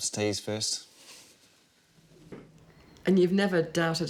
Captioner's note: laughs